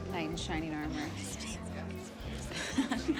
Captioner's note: whispering